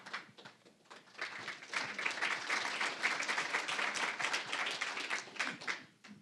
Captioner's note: applause